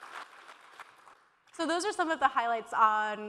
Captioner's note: applause